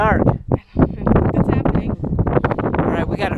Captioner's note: laughing